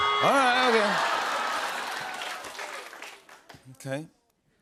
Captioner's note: applause